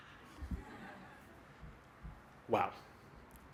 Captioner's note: laughter